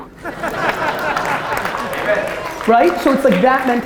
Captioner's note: audience laughter and applause